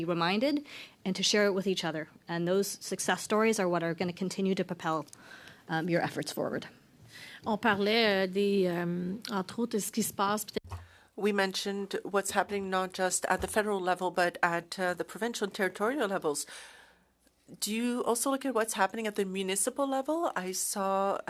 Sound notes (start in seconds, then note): 12.0 speaking French